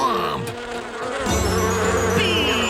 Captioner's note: buzzing